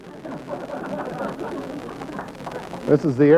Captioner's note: spectators laughing